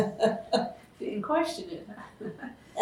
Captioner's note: laughs